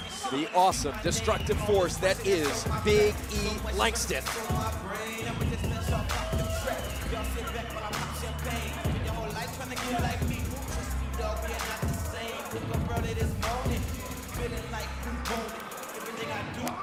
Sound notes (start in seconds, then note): 5.6 crowd cheering